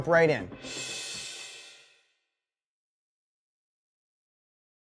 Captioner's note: whooshing sound